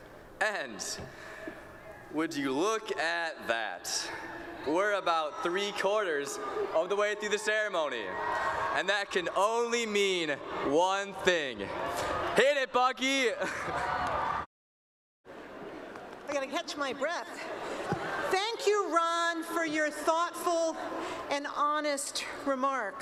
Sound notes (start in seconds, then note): 15.8 cheering; 17.6 laughter